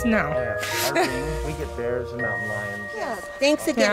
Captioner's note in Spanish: Risas